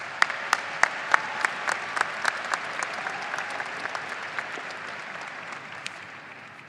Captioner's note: audience applauding and cheering